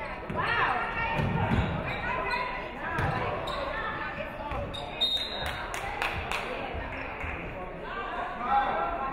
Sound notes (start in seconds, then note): 4.8 referee whistles